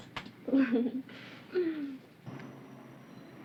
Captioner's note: laughs